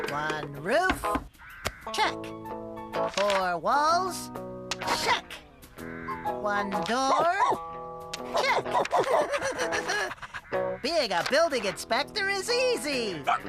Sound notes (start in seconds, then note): 7.0 barking; 8.2 giggling